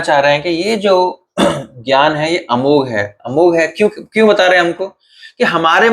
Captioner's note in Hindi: गला साफ़ करने की आवाज़